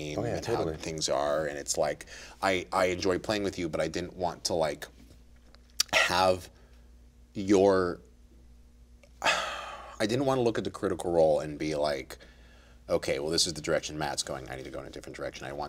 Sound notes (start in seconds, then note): 9.2 sighs